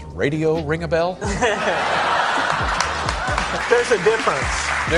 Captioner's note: everyone laughs